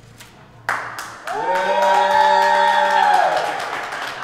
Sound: people applauding

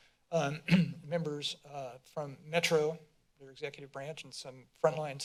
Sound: clears throat

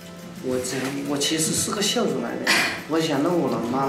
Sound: speaking Chinese

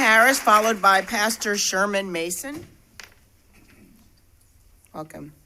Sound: applause

